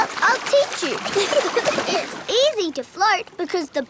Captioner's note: giggling